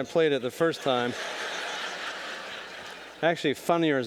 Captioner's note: audience laughing